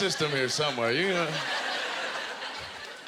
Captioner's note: audience laughter